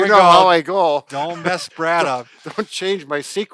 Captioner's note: chuckling